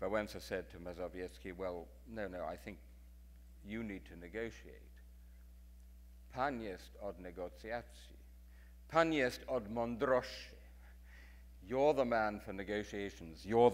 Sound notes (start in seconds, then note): 6.4 speaking in foreign language